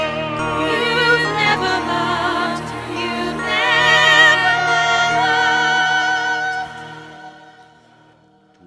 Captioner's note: sirens singing; singing